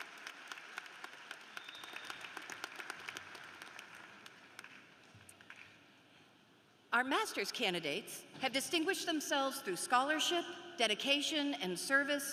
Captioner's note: applause